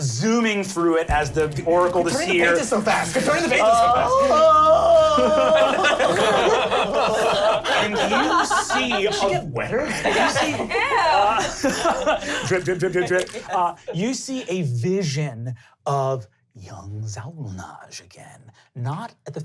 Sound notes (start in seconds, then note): 3.9 screaming; 6.2 laughing; 10.6 laughing